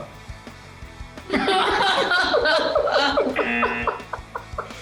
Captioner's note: buzzer; both laugh